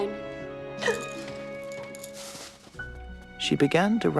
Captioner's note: Shirley gasps